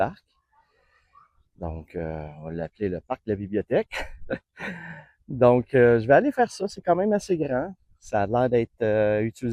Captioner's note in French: rires